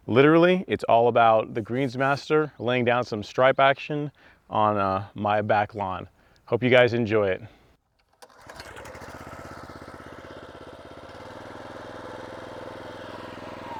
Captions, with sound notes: Literally, it's all about the Greensmaster laying down some stripe action on my back lawn. Hope you guys enjoy it. (lawn mower engine running)